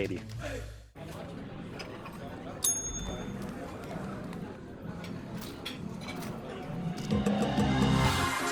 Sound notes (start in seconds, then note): 2.6 ding; 7.3 upbeat music